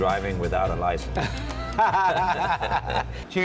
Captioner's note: laughter